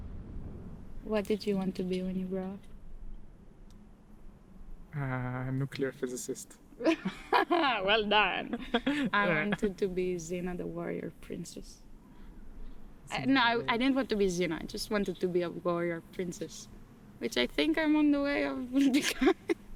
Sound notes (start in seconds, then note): 6.8 laughing